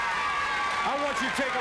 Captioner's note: crowd cheering